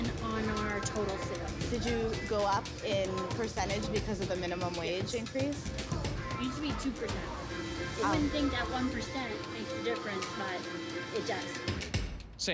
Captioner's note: servers and reporter talking